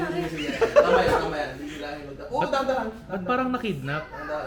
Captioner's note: laughter